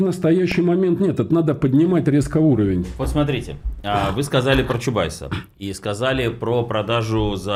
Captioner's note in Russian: откашливается